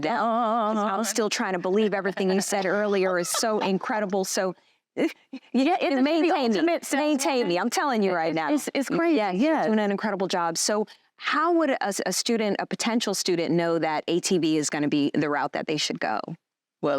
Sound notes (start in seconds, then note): 4.8 stammering